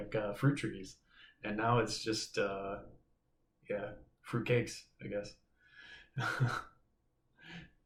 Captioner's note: chuckles